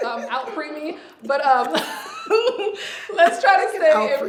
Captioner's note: laughs